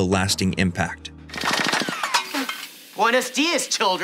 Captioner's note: gunfire